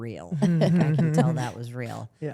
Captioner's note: laughs